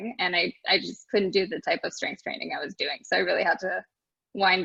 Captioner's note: none